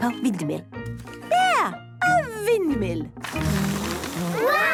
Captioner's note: blows